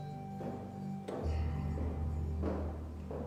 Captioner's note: footsteps